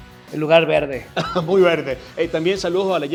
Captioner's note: laugh